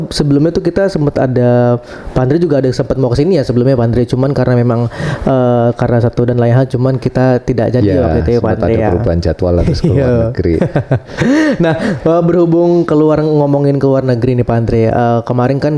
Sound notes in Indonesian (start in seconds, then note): 9.5 tertawa